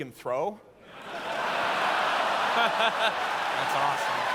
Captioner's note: laughter